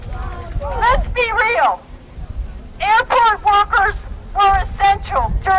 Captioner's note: chanting; chanting